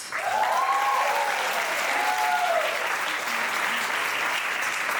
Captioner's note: audience applauding